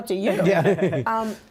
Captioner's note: laughter